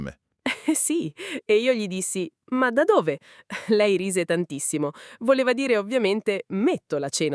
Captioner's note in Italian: risate